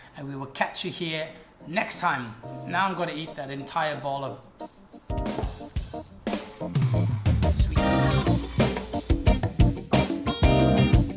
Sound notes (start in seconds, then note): 6.2 candy tinkling; 8.3 upbeat music